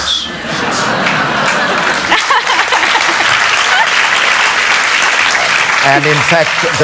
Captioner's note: laughter and Applause